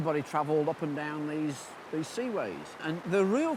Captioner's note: water babbles